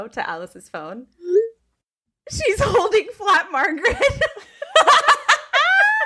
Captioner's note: laughing